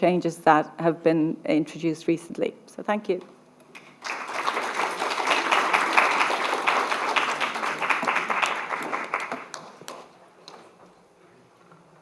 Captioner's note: applause